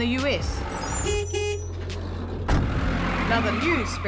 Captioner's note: van horn honks, engine revs